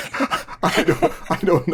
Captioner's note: laughter